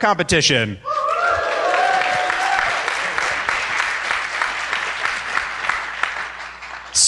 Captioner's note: applause